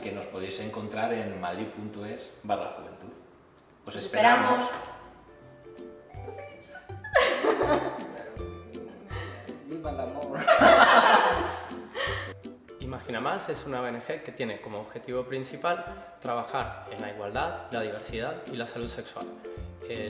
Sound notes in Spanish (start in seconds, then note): 7.1 Risas